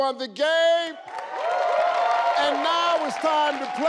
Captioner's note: audience cheers